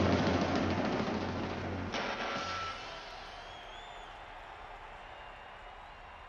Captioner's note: crowd screams